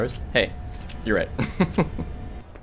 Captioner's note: laughs